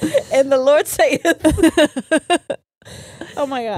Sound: both laughing

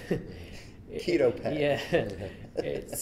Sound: everyone chuckles

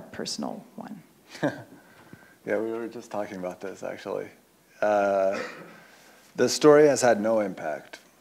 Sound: laughs

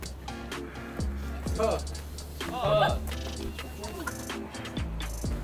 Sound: cracking up for sure

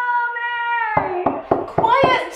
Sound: knock

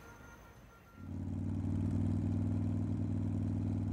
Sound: motorcycle revving

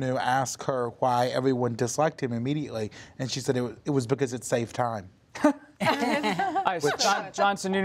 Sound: laughter

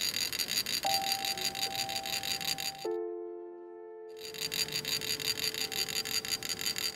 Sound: sound of rubbing metal utensils

